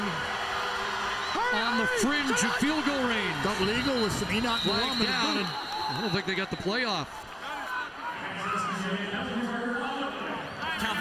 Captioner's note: loud Crowd Noise